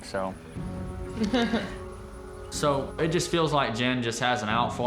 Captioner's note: chuckling